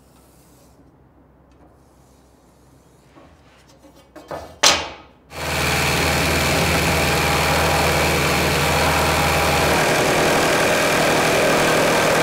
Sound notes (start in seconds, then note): 0.1 marker rubbing; 4.1 ruler banging; 5.3 saw rasping